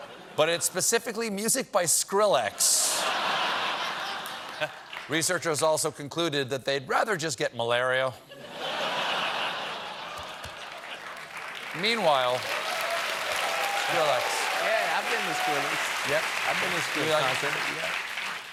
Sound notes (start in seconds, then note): 2.7 laughter; 8.3 laughter; 10.1 applause